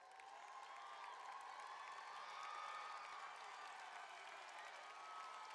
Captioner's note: applause